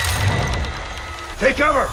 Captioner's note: gun whirring